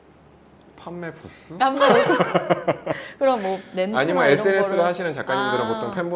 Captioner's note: laughs